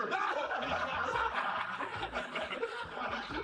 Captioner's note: all laughing